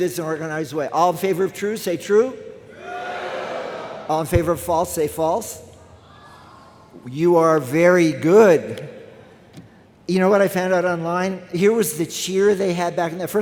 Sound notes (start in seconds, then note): 2.6 crowd; 5.9 crowd